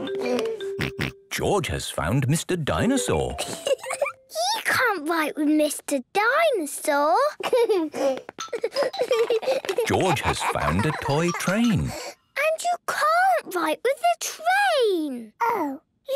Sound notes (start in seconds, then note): 3.4 giggling